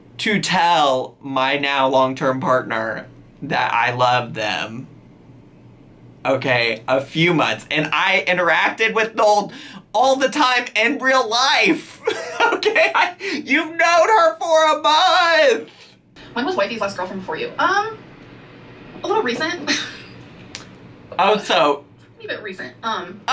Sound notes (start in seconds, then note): 12.0 laughing; 20.3 laughing